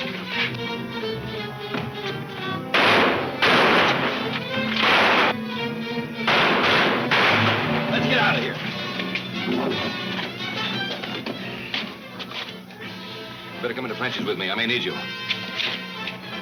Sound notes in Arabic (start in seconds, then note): 5.2 البنادق تطلق النار بشكل عدواني